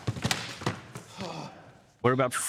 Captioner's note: exhales